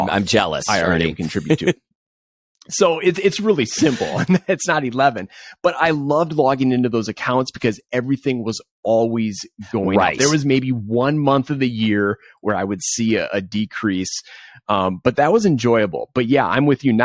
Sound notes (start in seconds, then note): 1.1 laughs; 3.6 chuckles